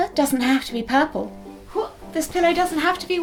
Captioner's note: exclamation of effort